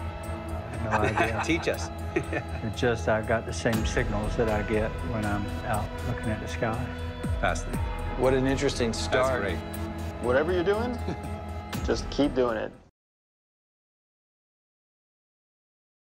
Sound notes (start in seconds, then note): 0.8 laughs